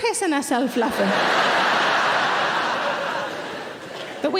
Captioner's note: audience laughing